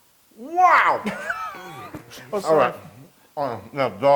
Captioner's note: laugh